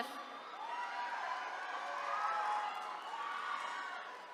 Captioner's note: attendees cheering